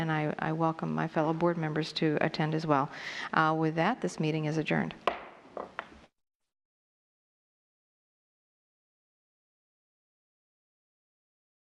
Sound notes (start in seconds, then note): 5.0 gavel